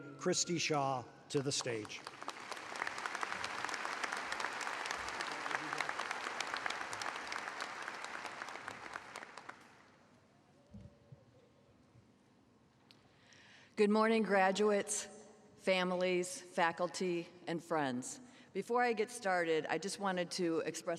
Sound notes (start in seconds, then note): 6.3 applause